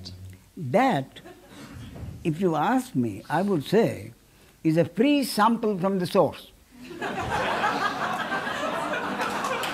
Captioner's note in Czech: smích